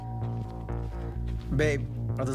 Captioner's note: doorbell rings